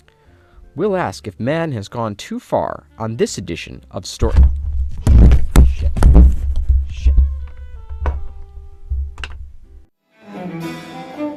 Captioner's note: knocks over mic